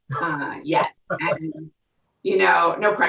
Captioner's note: laughing